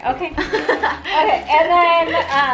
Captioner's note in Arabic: ضحك